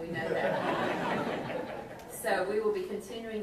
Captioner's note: audience laughs